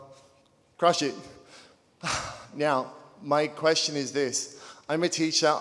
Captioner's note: sighing